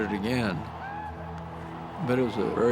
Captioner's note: crowd cheering